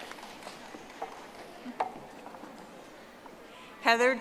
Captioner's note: audience applauding